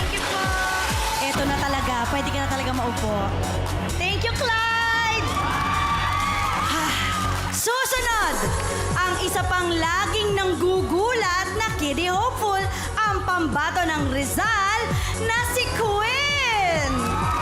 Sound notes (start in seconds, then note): 4.4 crowd cheers, applauds